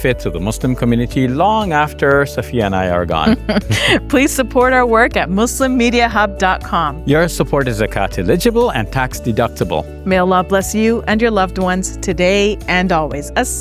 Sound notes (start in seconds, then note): 3.2 laughs